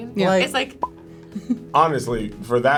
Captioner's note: pop; chuckles